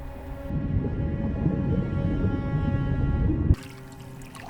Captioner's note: water warbling